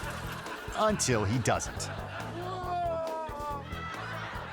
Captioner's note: glass shattering; audience laughing; crook crashing; crook moaning; audience laughing